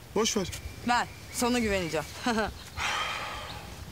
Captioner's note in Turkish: Şirin alaycı güldü